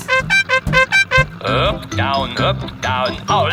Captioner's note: horn beeping